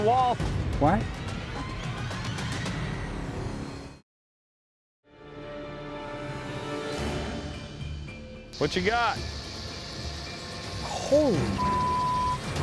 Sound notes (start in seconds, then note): 6.7 tense music; 9.1 snake rattling